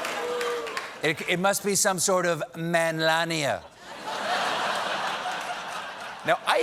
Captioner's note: laughter